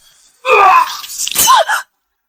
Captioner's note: screams